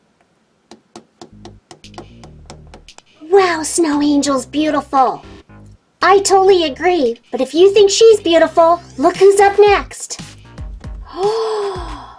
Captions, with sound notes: Wow snow angels beautiful! I totally agree but if you think she's beautiful, look who's up next! (gasps)